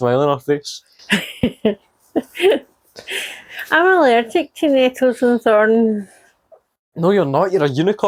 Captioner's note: laughter